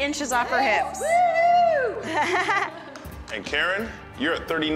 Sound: both chuckle

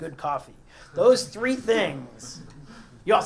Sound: laugh

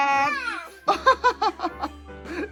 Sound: laughingering

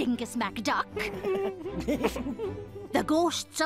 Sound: stifled laughter

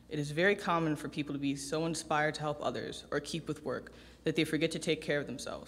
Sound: none

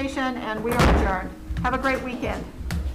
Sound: gavel thudding

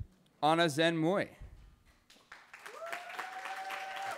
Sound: cheering

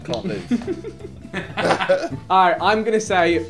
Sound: group laughing

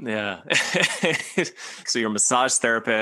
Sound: laughs

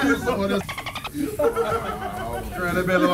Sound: laugh

